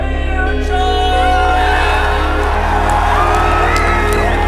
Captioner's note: audience cheers; reflective music